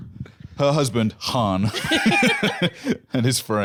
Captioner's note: laughing